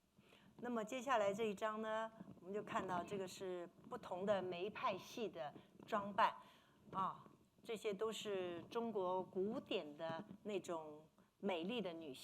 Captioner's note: speaking Mandarin